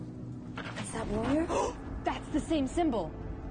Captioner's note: gasps